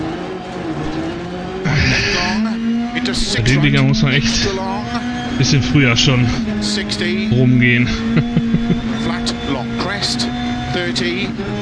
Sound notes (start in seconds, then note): 1.6 groans; 7.3 laughs